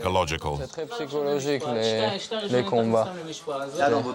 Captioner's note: French spoken audio